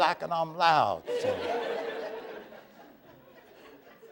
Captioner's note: laughter